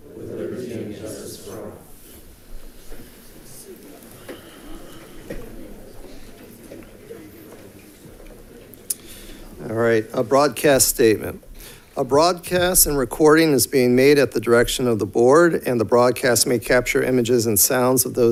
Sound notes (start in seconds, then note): 3.7 crowd chatting